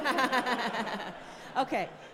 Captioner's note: all laughing